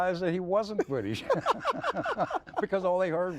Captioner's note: laughing